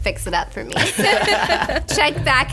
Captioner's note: laughter